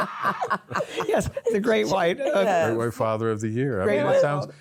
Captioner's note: laughter